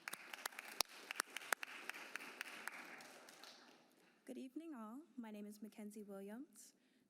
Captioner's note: applause